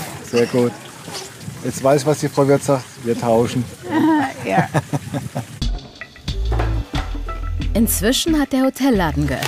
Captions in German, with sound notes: Sehr gut. Ich weiß, was die Frau Würth sagt, wir tauschen. (lacht:) Ja. (Lockere Musik) Inzwischen hat der Hotelladen geöffnet.